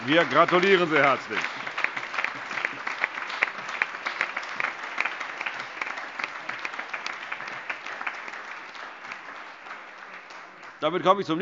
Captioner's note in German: Allgemeiner Beifall